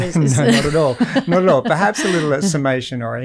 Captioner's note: Layne laughs